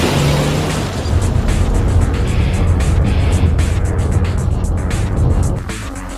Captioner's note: engine zooms; tires crushing gravel; SUV rattles; music fades